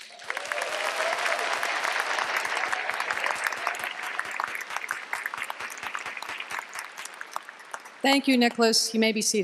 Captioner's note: applause